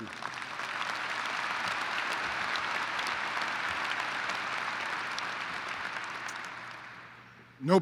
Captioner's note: applause